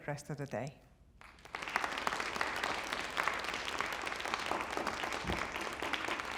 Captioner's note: applause